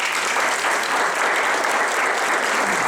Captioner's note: applause